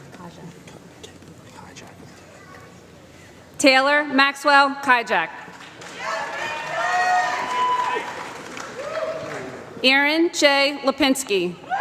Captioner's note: applause